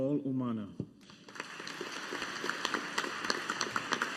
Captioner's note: audience applauding